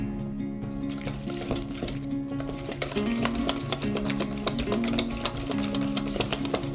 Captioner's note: bright music; whisk rattling